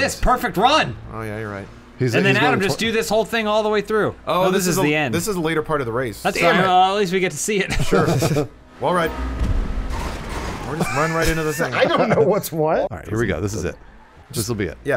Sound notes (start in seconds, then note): 7.6 laughter; 10.7 laughs